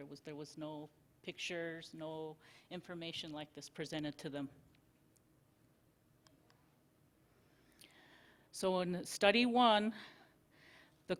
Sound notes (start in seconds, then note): 4.7 silence